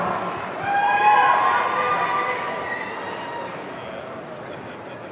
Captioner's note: audience cheering